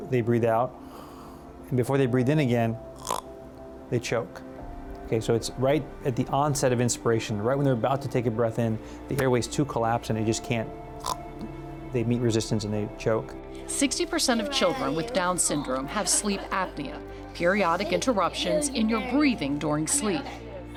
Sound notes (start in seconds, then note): 0.8 exhaling; 3.0 snort; 11.0 snort